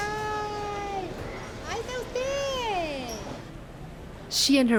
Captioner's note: speaking Spanish